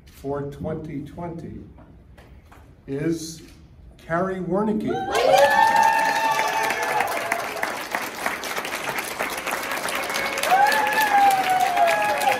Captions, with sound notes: for 2020 is Cari Wernicke [People cheering and clapping] [People clapping]